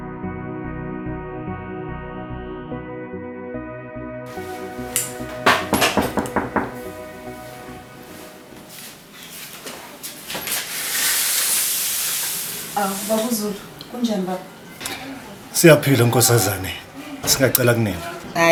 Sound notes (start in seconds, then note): 5.3 knock on the door